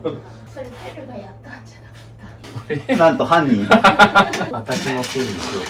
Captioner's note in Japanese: 笑い